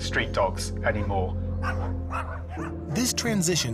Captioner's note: dogs barking